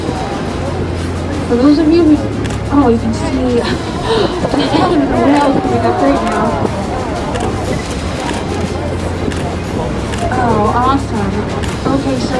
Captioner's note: guide Talking, Whale Blow, Excitement Of Passengers And Camera Clicks